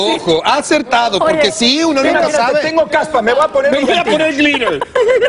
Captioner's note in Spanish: risas